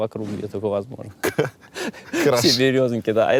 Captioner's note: laughs